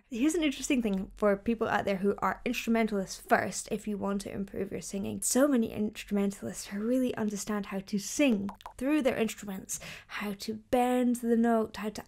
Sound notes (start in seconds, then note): none